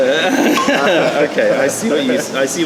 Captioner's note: laughter